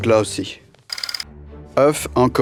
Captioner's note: slide rolling